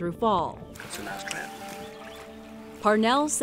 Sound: whispering

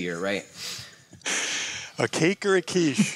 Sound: laughter

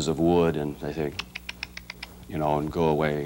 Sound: tuts

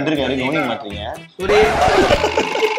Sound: laughs

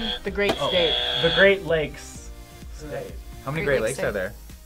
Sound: buzzer rings

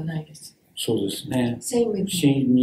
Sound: speaks in Japanese

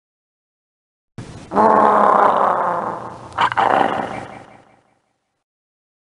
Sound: Cthulhu roar

